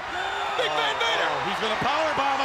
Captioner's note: crowd clamoring